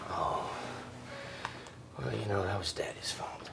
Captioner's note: none